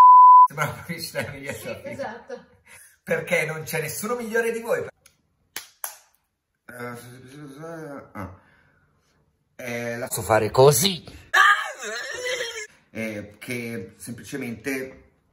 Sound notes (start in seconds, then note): 6.8 grumbles